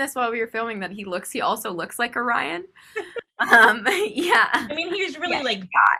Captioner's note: laughs